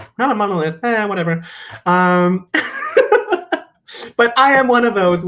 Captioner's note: chuckles